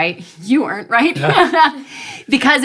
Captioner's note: laughs